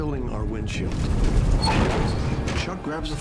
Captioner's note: trees hitting the plane